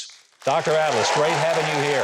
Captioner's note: audience applauds